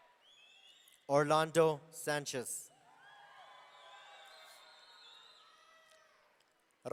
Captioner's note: audience cheering